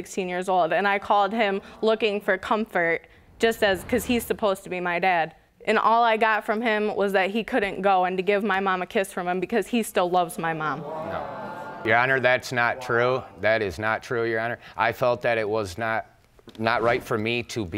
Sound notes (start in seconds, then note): 10.8 audience gasps